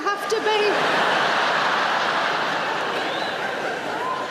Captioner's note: laughing